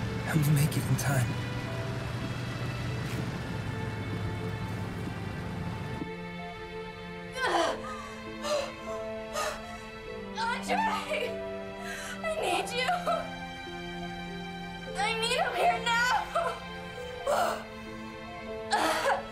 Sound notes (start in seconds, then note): 7.4 Jane screaming